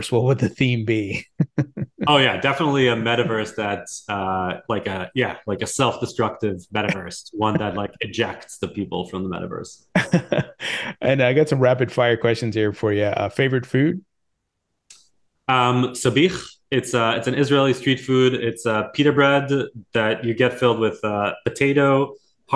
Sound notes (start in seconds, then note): 9.9 laughing